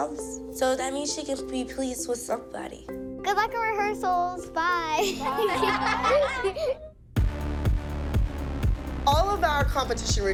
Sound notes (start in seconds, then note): 5.0 giggles; 5.0 laughter